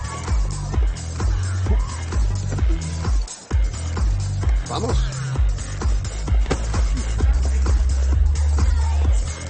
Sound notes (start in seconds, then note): 4.1 LaFleur speaking foreign language; 5.7 dramatic electronic music